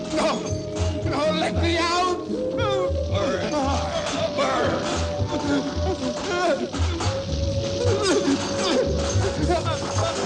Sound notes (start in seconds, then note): 6.0 whimpering